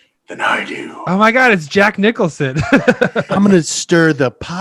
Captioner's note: laughs